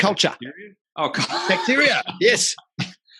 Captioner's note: laughing